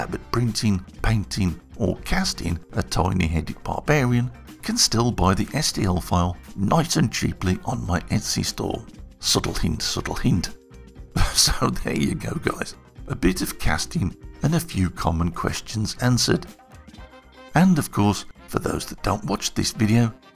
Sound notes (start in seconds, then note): 11.1 chuckling